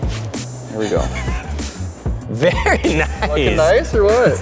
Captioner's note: laughs